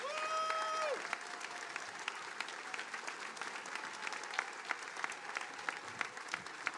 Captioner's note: attendees applauding; attendees cheering and applauding